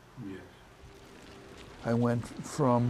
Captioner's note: dry leaves rustle